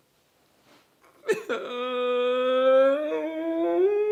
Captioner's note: man crying